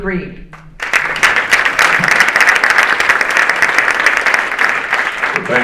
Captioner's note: audience applauding